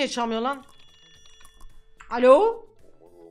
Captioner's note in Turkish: telefon sesi